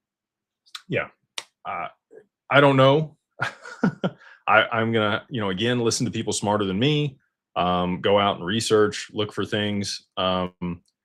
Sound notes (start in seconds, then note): 3.4 laughter